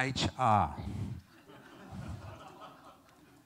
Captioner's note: laughter